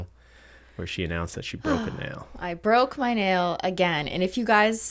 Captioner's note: sighs